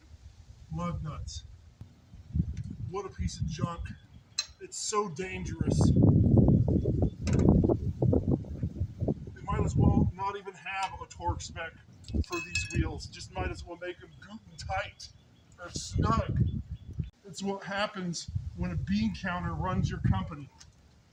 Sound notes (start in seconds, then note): 6.2 wind buffeting